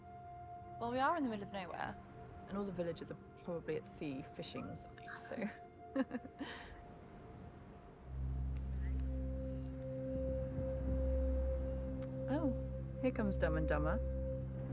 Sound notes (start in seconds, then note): 5.9 laughing; 7.6 soft melodic music